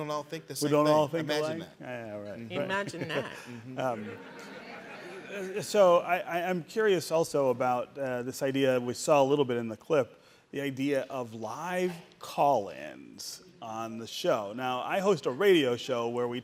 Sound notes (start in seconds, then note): 5.8 audience laughing